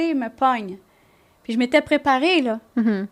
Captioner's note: in french